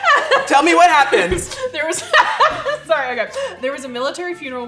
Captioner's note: laughs